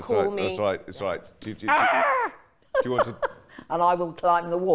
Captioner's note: chuckling